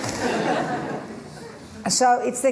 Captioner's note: laughter